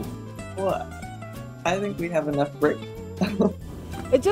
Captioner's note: laughs